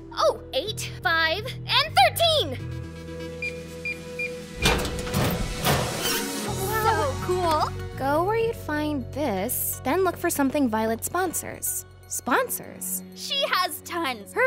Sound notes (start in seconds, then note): 4.2 lock beeping